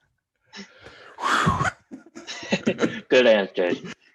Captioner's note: chuckling; imitating exhaling sigh of relief